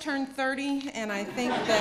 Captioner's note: laughter